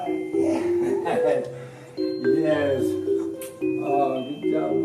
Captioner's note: laughs